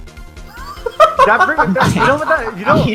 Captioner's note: laughing